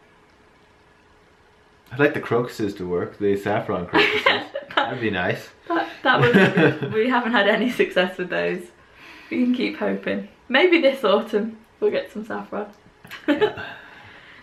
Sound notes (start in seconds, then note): 3.9 laughter; 13.0 laughter